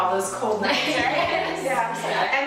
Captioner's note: laughs